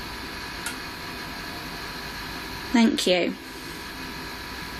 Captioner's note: clank